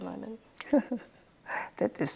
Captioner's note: chuckles